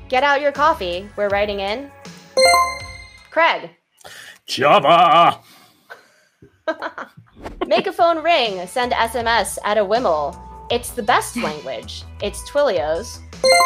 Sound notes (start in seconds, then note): 2.4 chime rings; 7.6 laughs